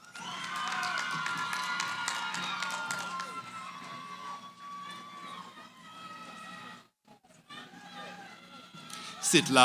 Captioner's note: cheering